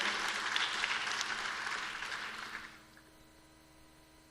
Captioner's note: applause